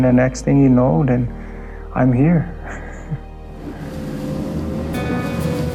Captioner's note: laughs